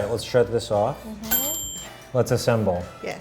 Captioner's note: timer dings